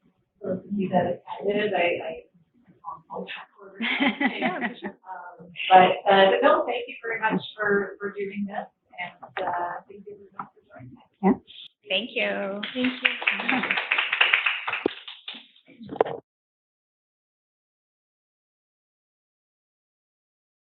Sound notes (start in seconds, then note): 3.8 both laughing; 12.6 audience applauding